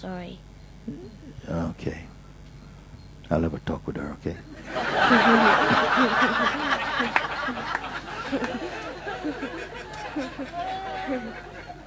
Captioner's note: laughter